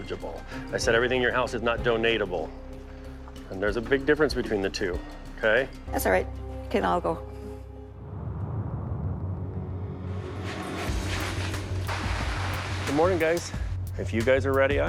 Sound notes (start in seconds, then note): 10.6 dramatic music; 10.8 plastic rustling